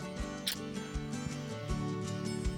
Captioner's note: smooch